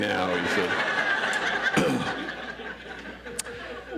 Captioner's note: audience laughs